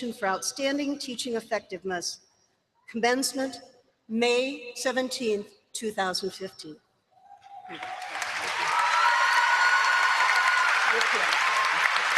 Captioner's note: applause